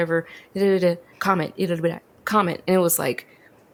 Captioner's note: speaks gibberish; speaks jibberish